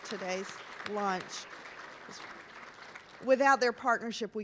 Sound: applause

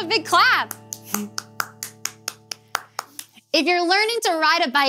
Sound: clapping

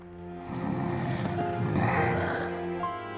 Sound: grunting

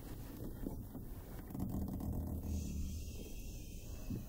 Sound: door creaking

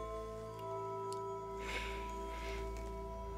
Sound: sighs

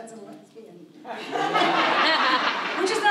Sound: audience laughs

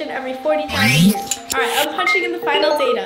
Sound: electrical whooshing

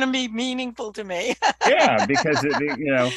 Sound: laughs

